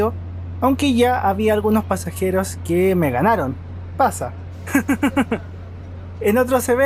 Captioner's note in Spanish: risas